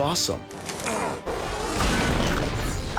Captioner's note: grunts